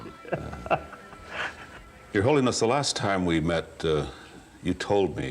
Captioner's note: chuckles